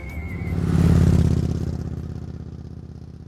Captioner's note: motorbike engine rumbles